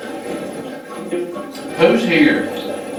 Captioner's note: static playback transmitting